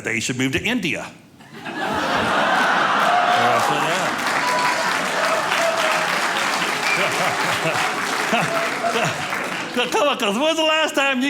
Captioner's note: audience laughing